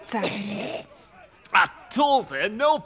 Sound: through coughs

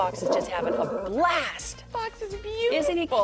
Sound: dog growls

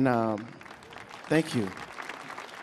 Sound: audience clapping

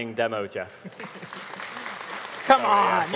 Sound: audience applauding

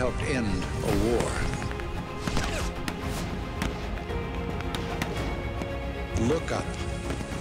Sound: gunfire

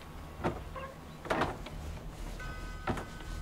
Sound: door opens

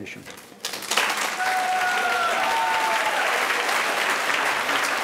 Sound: audience applauding

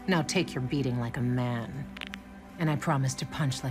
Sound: knuckles crack

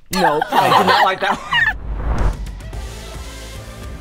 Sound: everybody laughs; upbeat music

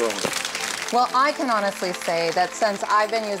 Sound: applause

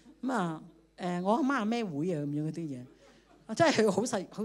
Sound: laughter

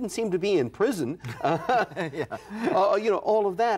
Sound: laughter

